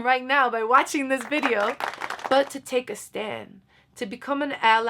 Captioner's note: applause